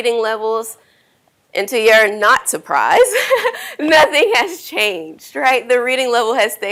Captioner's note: laughs